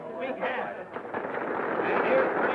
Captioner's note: crowd applauding